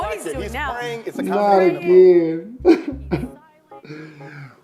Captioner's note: sobbing